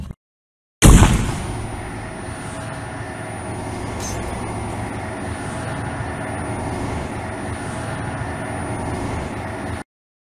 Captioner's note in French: High Pitched sound